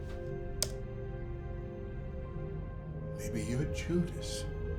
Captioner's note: keyboard key clicks